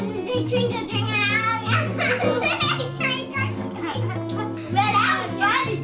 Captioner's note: laughing